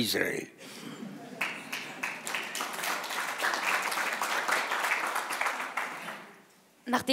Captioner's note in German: Applaus